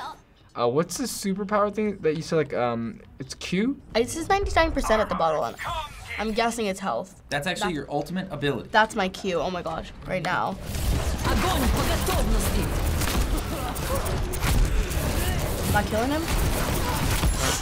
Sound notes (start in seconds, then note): 11.2 Zarya speaking Russian; 13.2 blasting